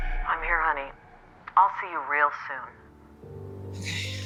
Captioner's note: on phone